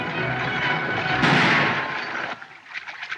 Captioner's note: gunshot